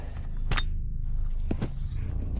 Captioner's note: brick clank